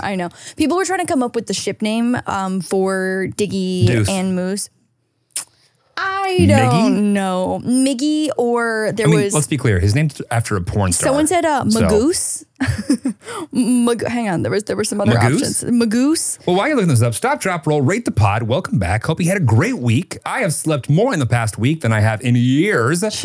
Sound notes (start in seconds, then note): 5.5 tuts; 11.6 laughs